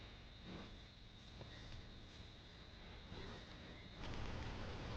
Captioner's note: crickets chirp